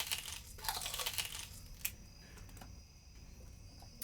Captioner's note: chewing